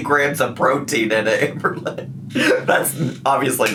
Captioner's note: laughs